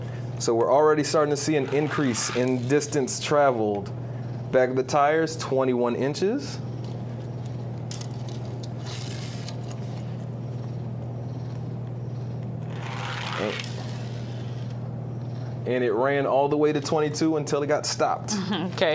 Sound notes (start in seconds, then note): 1.6 toy car grating; 9.2 toy car scratching; 12.7 toy car grating